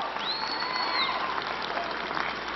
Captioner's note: applause